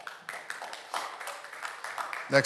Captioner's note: audience Applauding